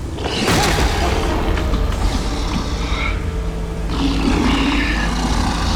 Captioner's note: zombie grunting